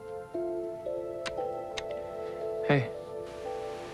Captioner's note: telephone clicks